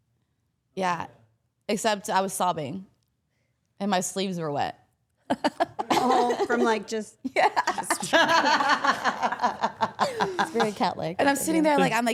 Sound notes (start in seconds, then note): 7.4 all laughing